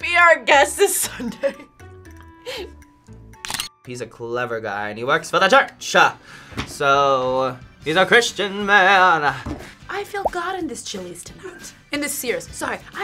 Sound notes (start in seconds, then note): 2.6 laughs; 3.4 camera shutter clicks